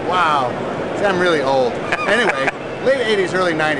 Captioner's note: laughs